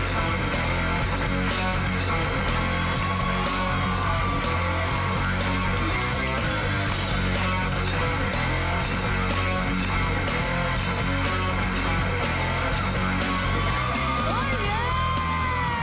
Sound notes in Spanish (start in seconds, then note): 0.0 Ovación